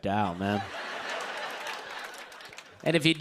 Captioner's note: laughter